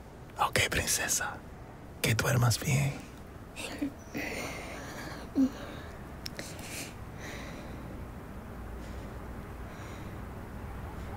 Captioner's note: hums lullaby